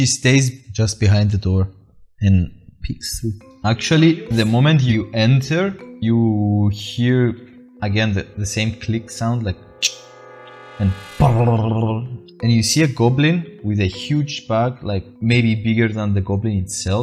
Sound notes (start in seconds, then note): 9.8 tsk